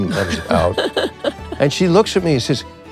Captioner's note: Kathryn laughs